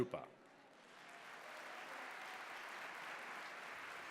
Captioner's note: applause